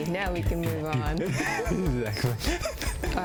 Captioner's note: both laugh